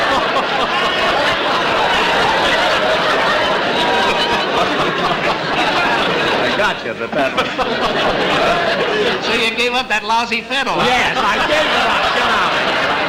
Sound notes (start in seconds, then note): 0.0 audience Laughing; 7.6 laughing; 12.8 audience Laughing and Applauding